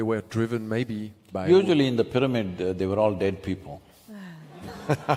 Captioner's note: laughter/Applause